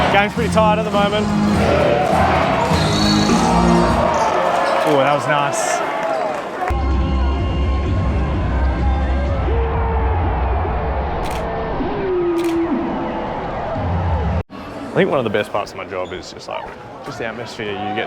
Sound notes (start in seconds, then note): 1.8 crowd chanting and cheering; 9.9 crowd cheering; 11.2 shutter clicking